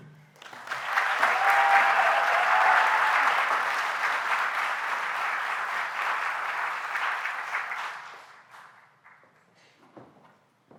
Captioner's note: applause